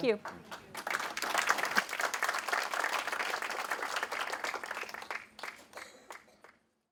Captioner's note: applause